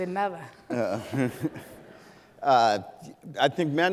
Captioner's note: speaks Spanish